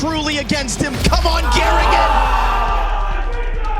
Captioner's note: players exclaiming